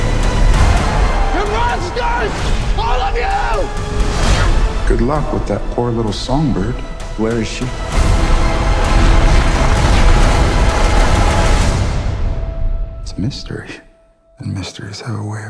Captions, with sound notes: - You're monsters! All of you! - Good luck with that poor little songbird. - Where is she? (debris clattering) - It's a mystery. And mysteries have a way